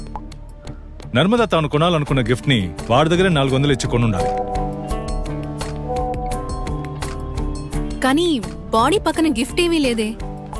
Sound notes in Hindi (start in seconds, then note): 4.1 फ़ोन की घंटियाँ